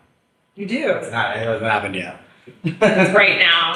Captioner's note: laughs